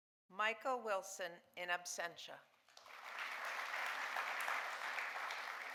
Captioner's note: audience applauding